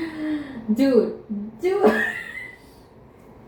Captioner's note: gasp